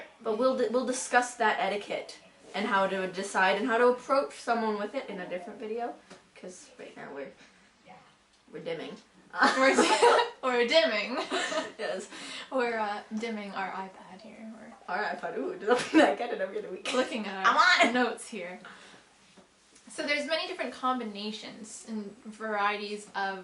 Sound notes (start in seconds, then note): 11.2 laughing